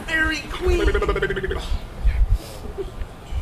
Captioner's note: Bottom vocalizing comically